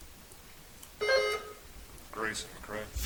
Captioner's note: buzzer chimes